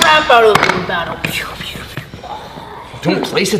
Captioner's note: Cypher mimics blaster noises